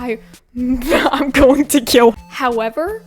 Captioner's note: laughs